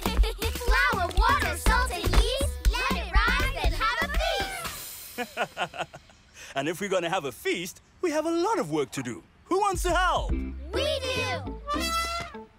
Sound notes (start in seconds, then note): 5.0 chuckles; 11.6 trumpets